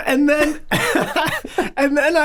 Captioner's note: chuckling